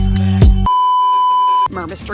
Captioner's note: beeeeeep